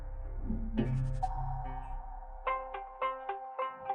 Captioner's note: high pitch clacks; gentle music